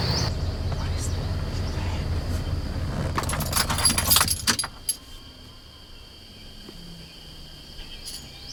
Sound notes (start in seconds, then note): 3.1 car keys jingle